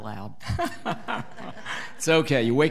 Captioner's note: laughing